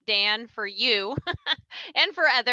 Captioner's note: chuckles